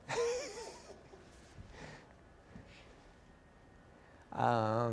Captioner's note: laughter